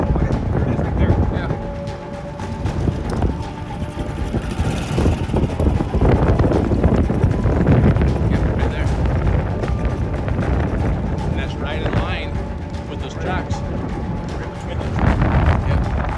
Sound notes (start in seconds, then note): 2.5 dramatic music continues; 4.8 boat engine droning; 4.8 wind whooshing